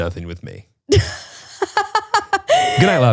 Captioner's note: laughs